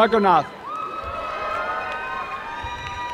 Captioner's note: applause